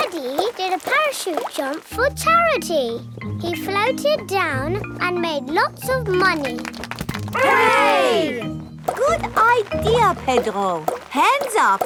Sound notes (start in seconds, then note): 6.2 crowd applauding